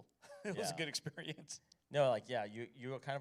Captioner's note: chuckles